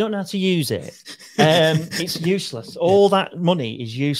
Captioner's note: laughing